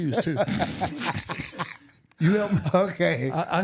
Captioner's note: laughing